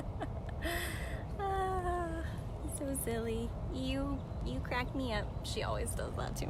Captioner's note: laughter